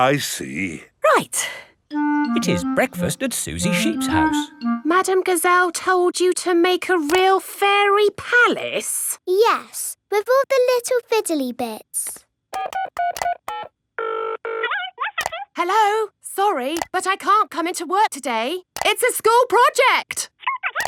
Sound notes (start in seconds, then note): 12.5 dials phone; 14.6 on phone